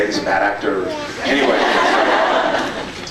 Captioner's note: laughs